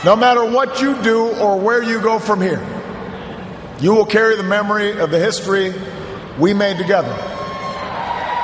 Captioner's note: cheers, applause